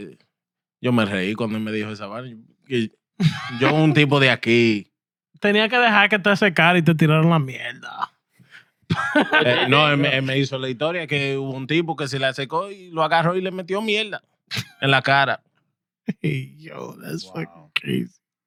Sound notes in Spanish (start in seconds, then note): 1.3 Hablando en idioma extranjero; 1.3 Riendo; 10.2 Hablando en idioma extranjero